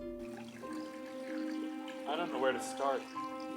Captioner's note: water trickling